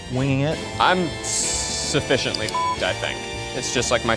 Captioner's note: beep